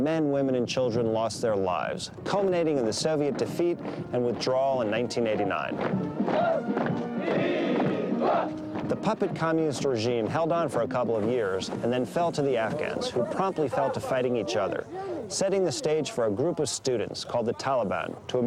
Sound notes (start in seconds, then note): 5.9 boots marching in tandem; 7.1 soldiers chanting